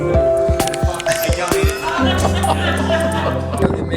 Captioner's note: indistinct chatter; laughter